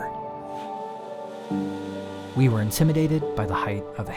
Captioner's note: steam whistle